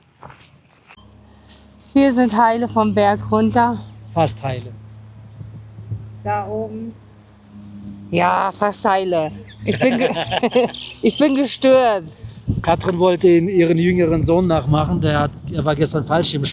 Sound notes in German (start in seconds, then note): 9.5 gelächter